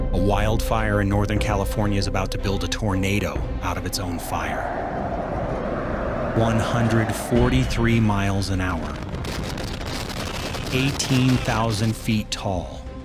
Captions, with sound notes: a wildfire in Northern California is about to build a tornado out of its own fire. [wind blowing] 143 miles an hour, 18,000 feet tall,